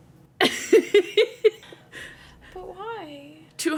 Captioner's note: laughing